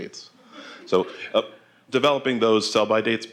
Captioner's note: laughter